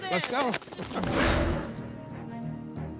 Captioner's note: applauding; dramatic music